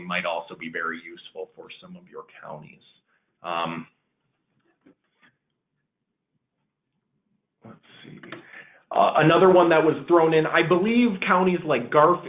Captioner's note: silence